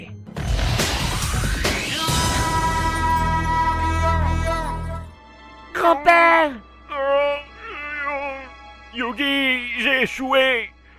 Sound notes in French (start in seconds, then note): 5.6 Yu-Gi, s'exclame; 6.7 plaintes de douleur